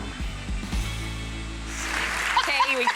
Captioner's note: audience claps